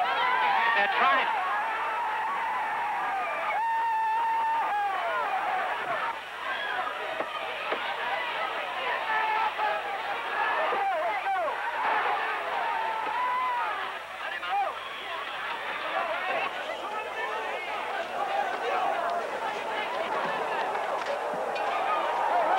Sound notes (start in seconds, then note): 0.2 angry shouting; 6.1 screaming; 9.7 shouting continues